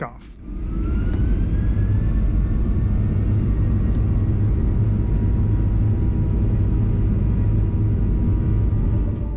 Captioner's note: jet engine spool up